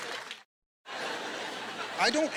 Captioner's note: laughter